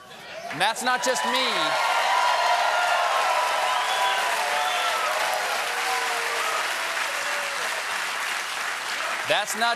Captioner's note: cheers and applause